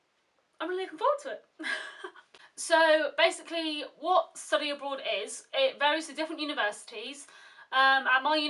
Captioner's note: giggles